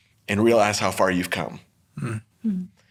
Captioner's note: none